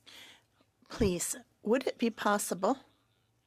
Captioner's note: speaking French